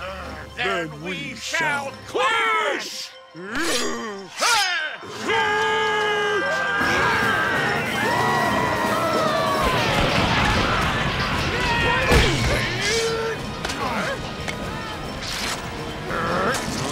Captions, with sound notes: Then we shall clash! [grunting] [screaming]